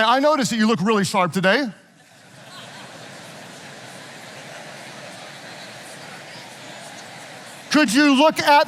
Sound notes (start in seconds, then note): 2.2 audience laughing